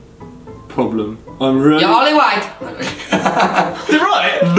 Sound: laughs

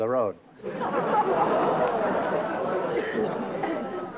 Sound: laughter

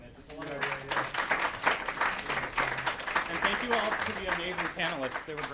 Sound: audience applauds

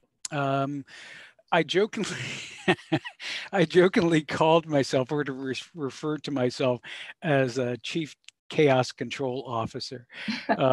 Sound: laughs

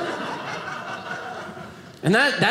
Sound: audience laughing

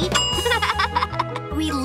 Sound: laughing

